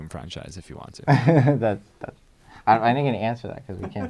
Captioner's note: laughs